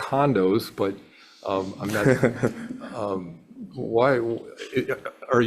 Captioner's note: laughs